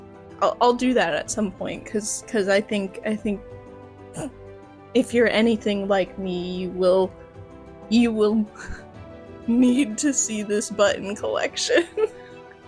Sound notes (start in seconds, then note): 4.0 chortle; 8.2 little laughter; 11.7 laughter